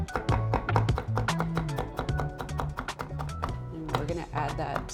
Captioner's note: bright upbeat music; knife thuds